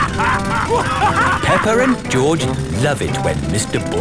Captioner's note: both laughing; drilling